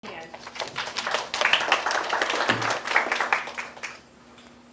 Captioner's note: audience applauding